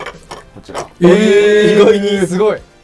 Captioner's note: surprised noises